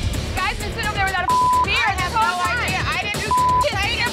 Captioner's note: beep